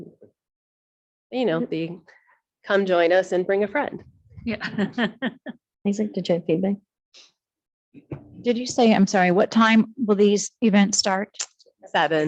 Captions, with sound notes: - You know, the come join us and bring a friend. - Yeah. (chuckles) - Isaac, did you have feedback? - Did you say, I'm sorry, what time will these events start?